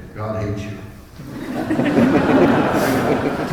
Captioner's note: laughter